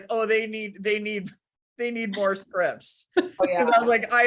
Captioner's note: laughs